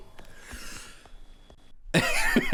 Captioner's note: sighs